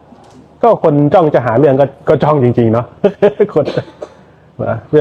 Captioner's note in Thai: เสียงหัวเราะ